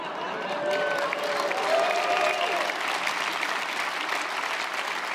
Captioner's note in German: Jubel, Applaus